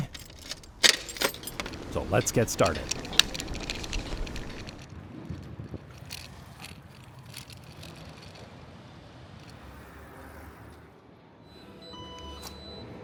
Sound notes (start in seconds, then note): 0.0 clank!; 4.9 bicycle ASMR; 9.6 transit ASMR